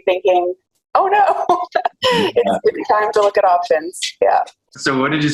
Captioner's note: laughs